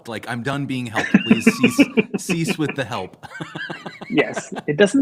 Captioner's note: laughter